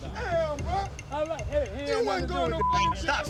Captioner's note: overlapping chatter